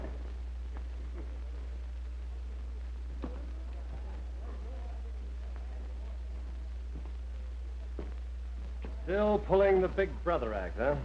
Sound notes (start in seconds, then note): none